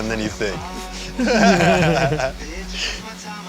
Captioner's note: everyone laughs